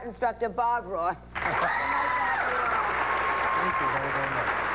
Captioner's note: audience claps